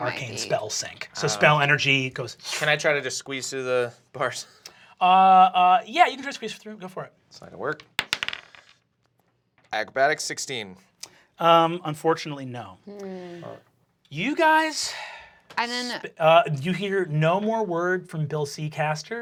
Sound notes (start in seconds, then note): 7.7 dice bouncing